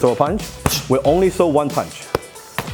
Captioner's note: gloves hitting hands